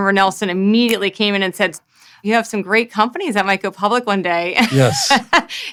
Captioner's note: laughs